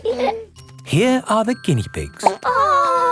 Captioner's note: laughing; plop